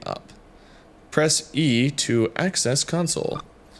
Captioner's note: computer beeps